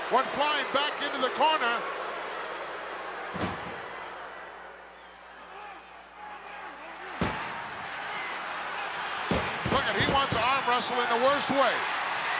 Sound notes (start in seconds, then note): 3.4 body thuds; 7.2 body thuds; 12.2 audience cheering